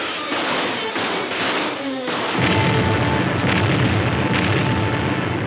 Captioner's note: explosions booming